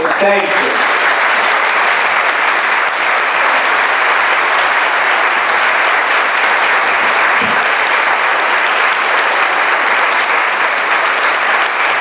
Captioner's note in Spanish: applause